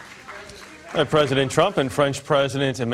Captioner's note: applause